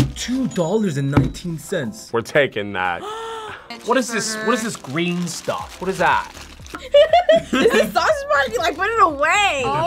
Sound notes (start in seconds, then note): 3.0 React gasps; 6.7 both laugh